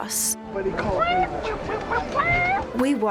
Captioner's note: clucking